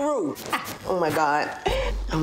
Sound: Erica laughs

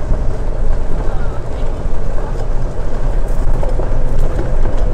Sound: cart noise

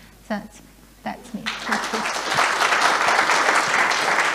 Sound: applauding

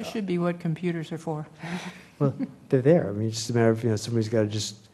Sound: laugh

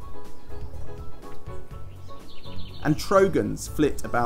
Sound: birds chirping

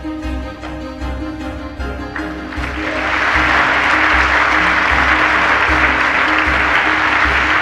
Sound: applause; claps hands

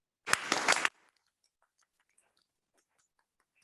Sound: applause

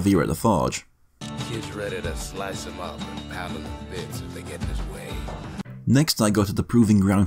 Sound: in-game audio

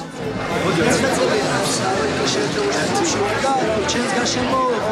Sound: speaking foreign language

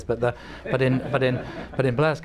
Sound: laughter

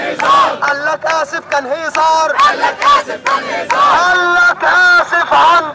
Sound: chants

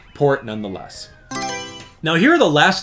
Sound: Mario Selection Sound

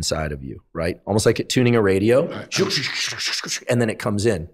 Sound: imitating static

